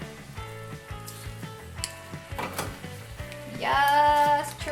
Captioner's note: sizzling sounds